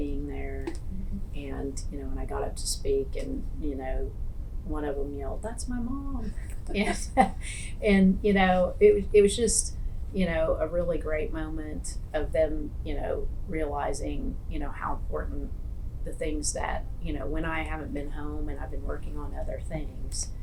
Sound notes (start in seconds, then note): 6.4 laughs